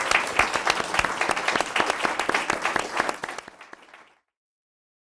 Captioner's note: audience applauding